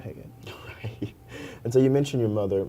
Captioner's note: laughter